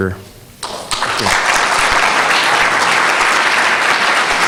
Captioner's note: audience applauding